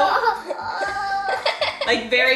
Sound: giggles

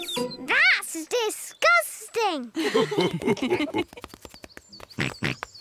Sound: mummy and daddy pig laugh; oinks

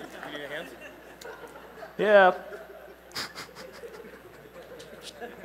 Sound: laughter

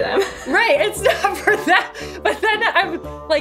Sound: laughs

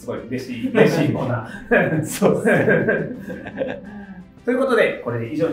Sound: laughing

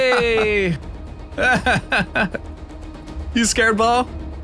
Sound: laughs

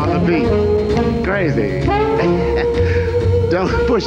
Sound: laughs

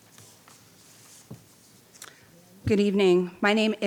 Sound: paper rustling

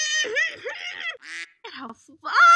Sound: quack

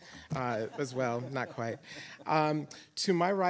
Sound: audience chuckling

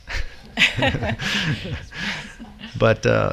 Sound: chuckle

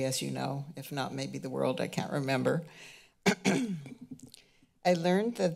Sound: clears throat

